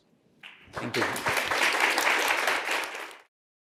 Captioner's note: applause